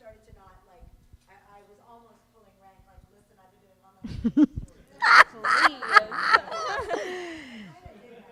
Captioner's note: laughter